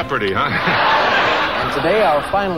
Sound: audience laughing

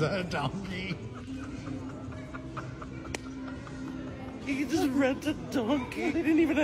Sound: laughing

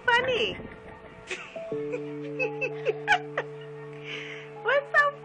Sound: laughing

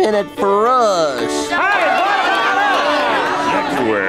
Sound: clamoring

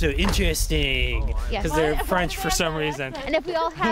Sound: faking a French accent

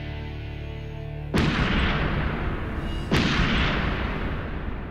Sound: gunfire

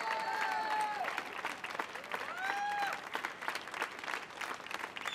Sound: audience applauds

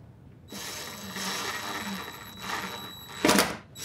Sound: drilling sounds

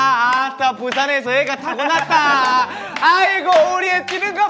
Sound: speaking in dialect / is excited; clapping in sync

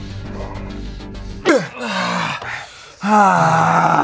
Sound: grunting

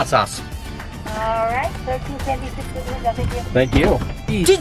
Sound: woman In Speakerphone

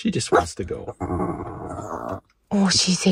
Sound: grumbling

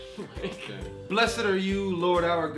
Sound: laughs

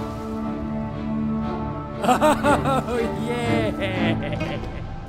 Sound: Ghost laughs

